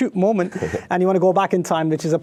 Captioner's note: laughing